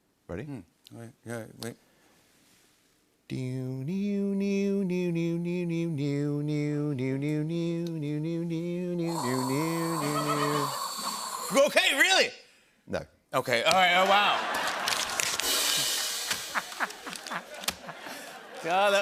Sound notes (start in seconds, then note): 3.5 hums theme song; 14.3 laughter